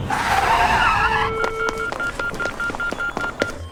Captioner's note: beeping